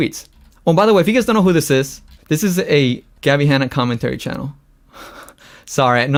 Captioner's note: laughs